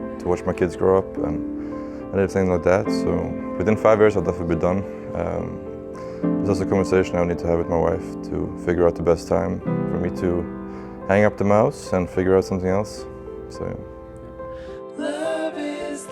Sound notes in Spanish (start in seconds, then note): none